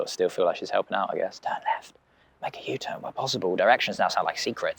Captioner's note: whispered